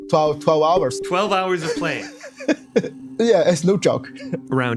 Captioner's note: laughs